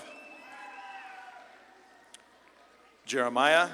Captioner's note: audience claps and cheers